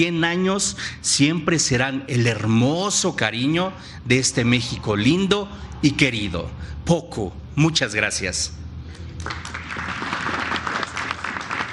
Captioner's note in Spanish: aplausos